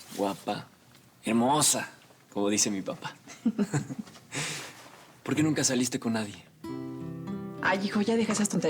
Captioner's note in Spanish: risas